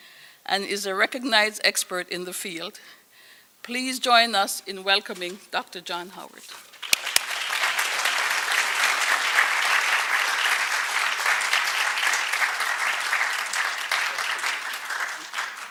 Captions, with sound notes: and is a recognized expert in the field. Please join us in welcoming Dr. John Howard. [APPLAUSE]